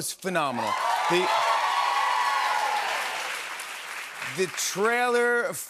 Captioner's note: cheers and applause